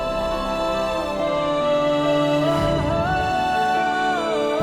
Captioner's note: emotional vocalising